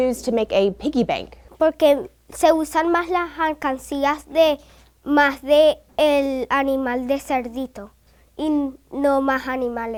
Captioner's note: in Spanish